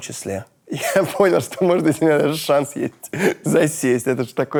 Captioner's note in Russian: смеясь